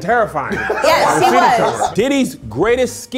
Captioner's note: laughing